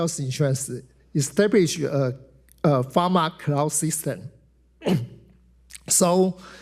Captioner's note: clears throat